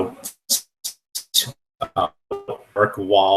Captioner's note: static